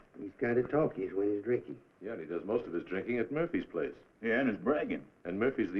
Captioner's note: none